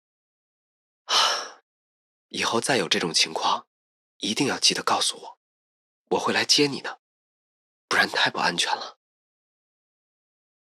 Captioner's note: sighs